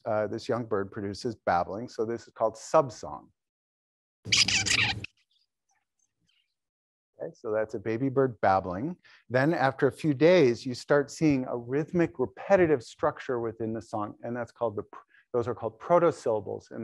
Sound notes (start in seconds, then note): 4.3 bird singing